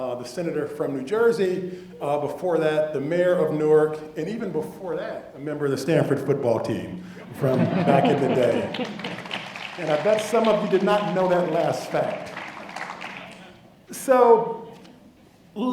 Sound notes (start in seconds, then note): 7.2 laugh; 7.8 applause